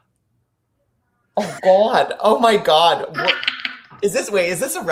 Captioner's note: laughing